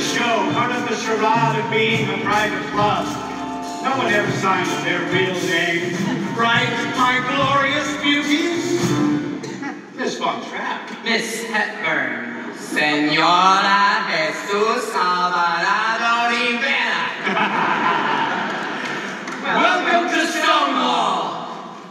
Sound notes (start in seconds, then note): 16.9 performers laughing